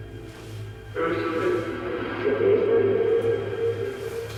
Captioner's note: voice echoing